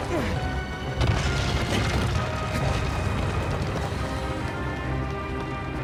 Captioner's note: character grunts; footsteps pounding